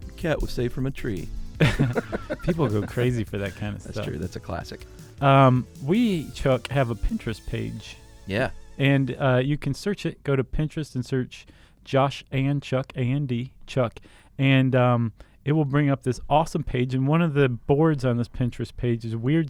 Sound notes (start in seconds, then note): 1.6 both laugh